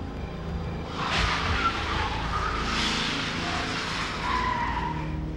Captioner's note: screeching brakes